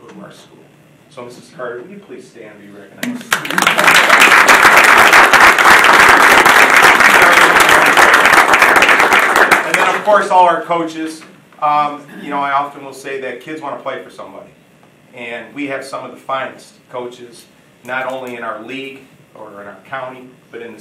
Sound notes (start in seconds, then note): 3.1 audience applauding; 7.7 drowned by applause